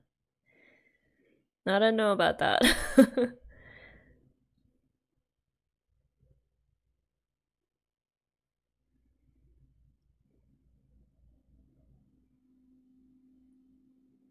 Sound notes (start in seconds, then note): 2.6 laughs